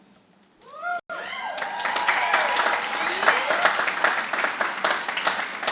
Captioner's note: applause